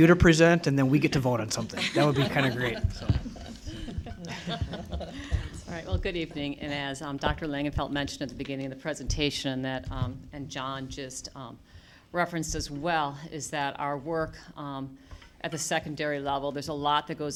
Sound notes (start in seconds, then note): 3.9 laughter